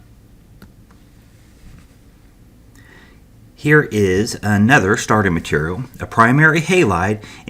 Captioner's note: turn page